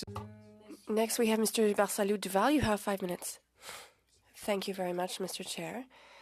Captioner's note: speaking French